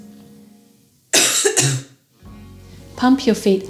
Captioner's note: patient coughs